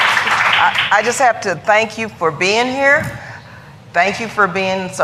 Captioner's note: applause